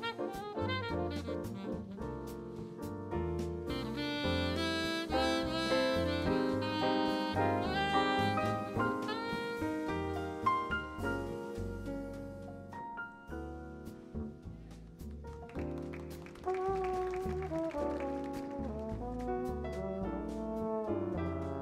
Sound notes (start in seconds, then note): 15.2 audience applauds